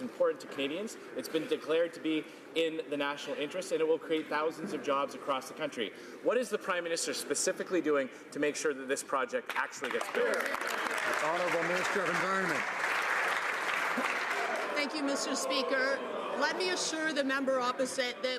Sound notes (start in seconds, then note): 14.1 some Applause